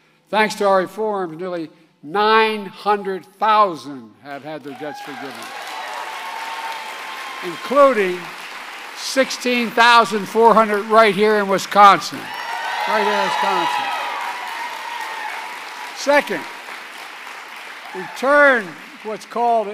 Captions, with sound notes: Thanks to our reforms, nearly 900,000 have had their debts forgiven -- (applause) -- including 16,400 right here in Wisconsin -- right here in Wisconsin. (Applause.) Second, we turned what's called